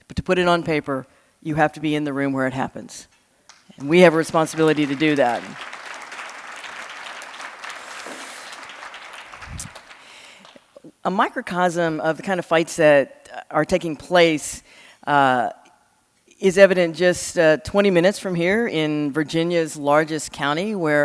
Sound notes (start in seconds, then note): 5.6 audience clapping